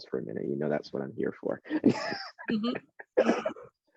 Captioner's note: laughs